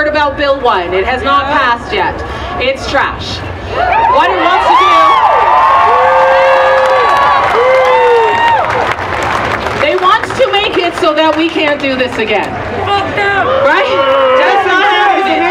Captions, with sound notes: about Bill 1, it has not passed yet, it's trash. [Applause] They want to make it so that we can't do this again.